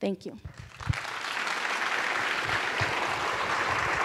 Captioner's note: applause